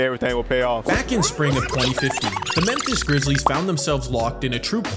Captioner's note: rewind sound